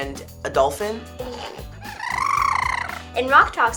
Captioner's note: Murf trilling